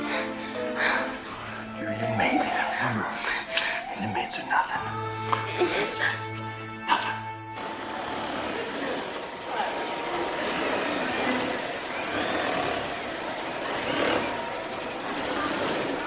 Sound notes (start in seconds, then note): 7.9 sewing machines whirring; 12.8 inmates chattering